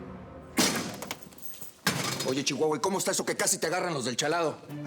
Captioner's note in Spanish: sonido al abrir la puerta